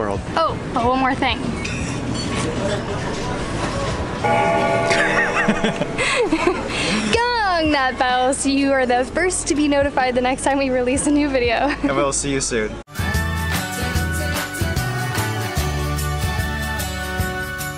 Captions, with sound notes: Oh! One more thing... [Bell Ringing] Gong that bell! So you are the first to be notified the next time we release a new video and we will see you soon!